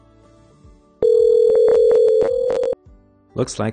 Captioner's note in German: Telefon klingelt